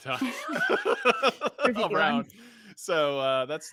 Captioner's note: group laughs